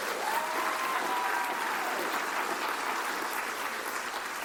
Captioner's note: cheers and applause